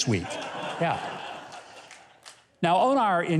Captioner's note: audience laughs